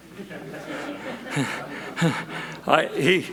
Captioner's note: audience laughs; laughs